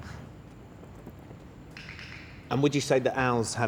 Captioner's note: clicking